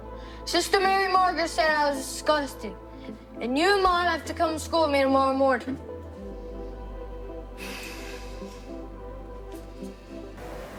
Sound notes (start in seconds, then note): 5.9 gentle music; 7.6 Jack sighs